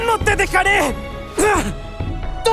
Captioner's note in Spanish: Gruñido